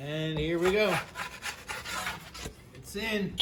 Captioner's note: pan scrapes oven